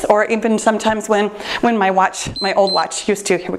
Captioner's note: timer beeps